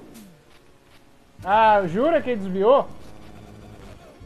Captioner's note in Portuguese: indignado